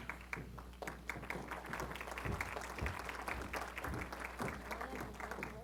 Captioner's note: applause